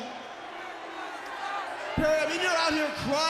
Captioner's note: crowd cheering